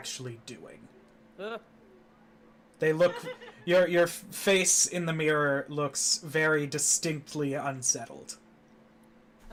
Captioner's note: nervous noises